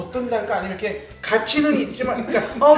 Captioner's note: hahahahahaha